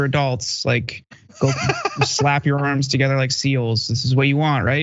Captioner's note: laugh